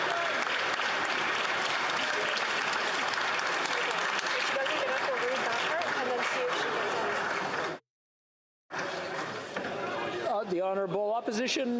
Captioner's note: cheering/Applause